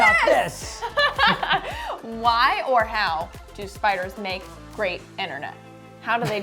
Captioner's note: laughs